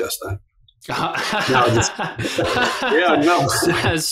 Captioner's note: laughing